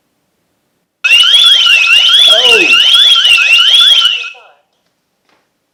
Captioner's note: loud siren alarm